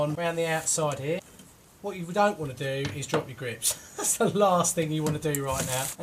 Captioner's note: laughs